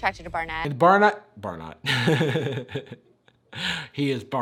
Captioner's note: laughs